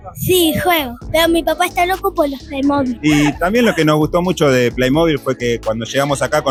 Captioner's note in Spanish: risas